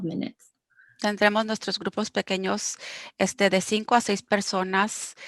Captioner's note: speaking foreign language